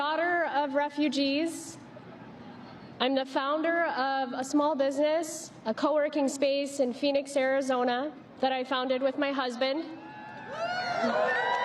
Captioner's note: applause